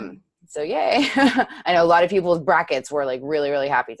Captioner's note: chuckles